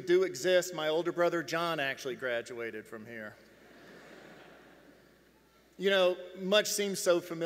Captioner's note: laughs